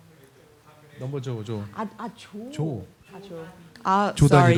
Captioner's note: speaking korean